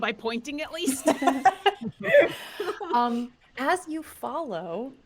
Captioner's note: chuckle